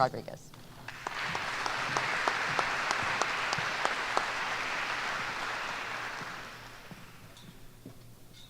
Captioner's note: applause